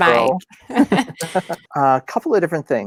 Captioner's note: both laughing